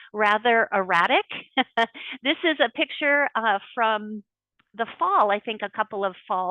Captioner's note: laughs